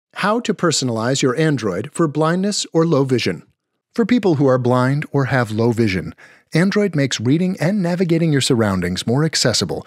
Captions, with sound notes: -[Voiceover] How to personalize your Android for blindness or low vision. For people who are blind or have low vision, Android makes reading and navigating your surroundings more accessible